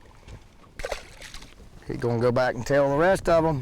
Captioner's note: fish splashing